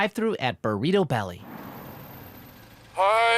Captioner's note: car engine idling